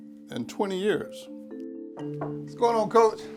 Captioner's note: knock on door